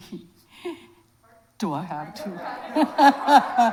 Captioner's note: laughs; audience laughs